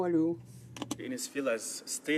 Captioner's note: speaking French